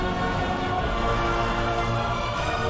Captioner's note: engines revving; tyres screeching; engines revving